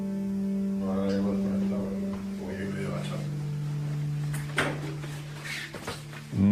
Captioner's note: nurse speaking Spanish